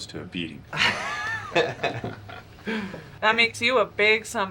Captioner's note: staff laughing